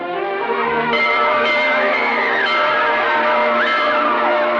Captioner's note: ringing; children Chattering, Laughing